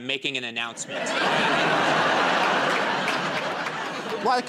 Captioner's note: laughter and applause